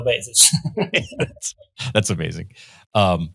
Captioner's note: both laughing